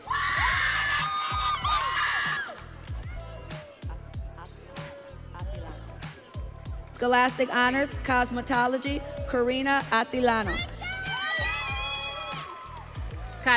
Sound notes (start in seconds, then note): 3.6 audience cheering; 12.5 audience cheering